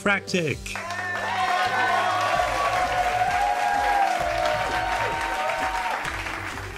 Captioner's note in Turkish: seyirciler tezahürat yapar